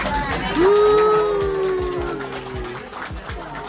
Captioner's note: crowd goes wild